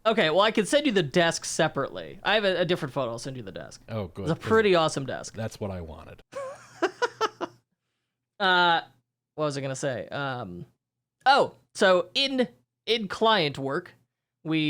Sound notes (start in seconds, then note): 6.3 laughs